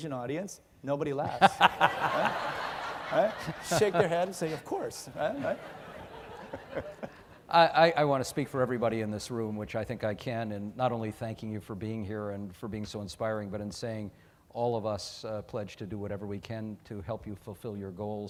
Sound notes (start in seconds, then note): 0.0 laughing